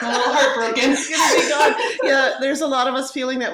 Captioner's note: laugh